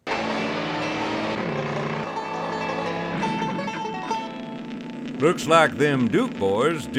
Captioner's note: revving engine, banjo music